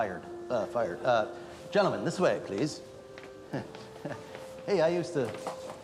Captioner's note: laughs